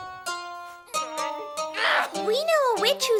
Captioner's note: screams; grunts